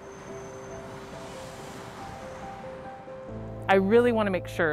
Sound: cars whooshing

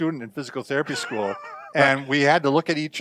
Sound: laughs

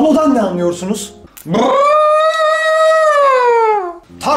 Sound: strange mysterious sounds

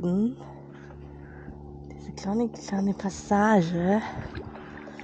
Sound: motorboat in the background

